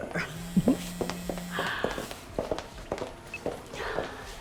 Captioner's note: phone buzzing